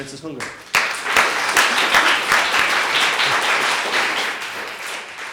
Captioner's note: audience applauding